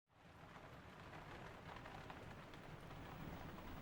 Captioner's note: rain pattering